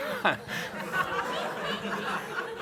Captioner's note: laughter